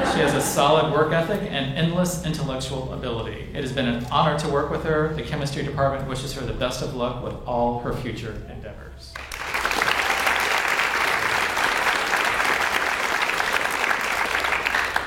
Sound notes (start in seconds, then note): 9.1 audience applauds